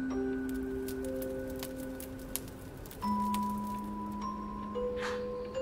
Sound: fire crackling

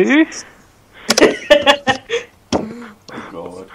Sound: laughing

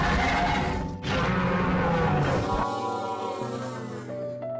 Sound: screams of the giant Flying Spaghetti Monster; screams of the giant Flying Spaghetti Monster fading

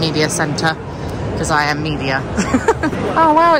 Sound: laughing

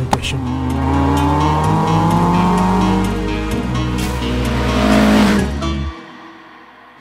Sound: upbeat music; car engine revving

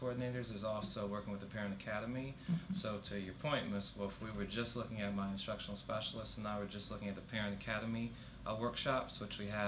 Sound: laughter

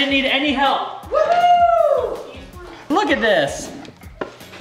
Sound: cheering

